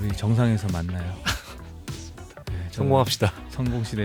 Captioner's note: laughs